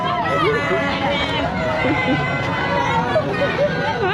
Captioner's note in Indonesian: tertawa supprised